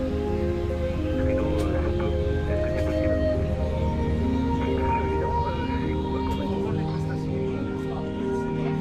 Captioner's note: radio chatter